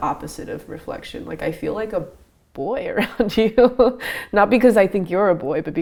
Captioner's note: laughs